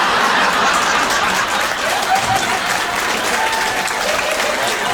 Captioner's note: audience applauding